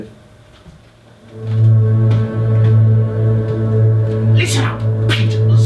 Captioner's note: SFX - Atmospheric Drone